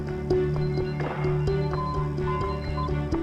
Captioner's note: alarms beep repeatedly